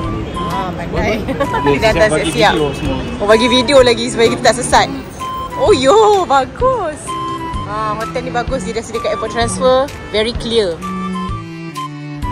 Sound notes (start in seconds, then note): 1.4 laugh